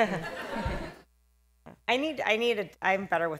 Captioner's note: laughter